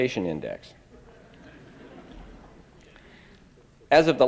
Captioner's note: laughter